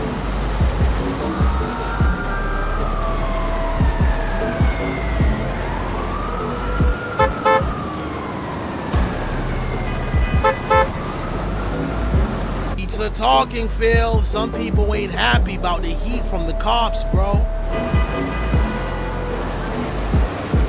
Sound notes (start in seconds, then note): 7.2 horn honking; 17.8 horns honking